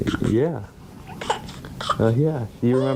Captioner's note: baby fussing